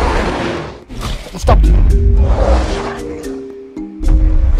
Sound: stomping Sounds

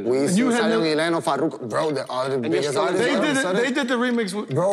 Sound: overlapping chatter

